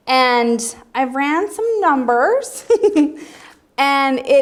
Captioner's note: giggles